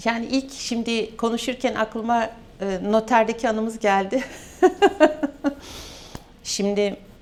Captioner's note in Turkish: kahkaha